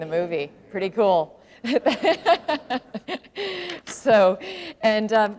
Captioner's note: laughter